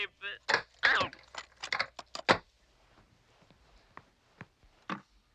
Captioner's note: tape clattering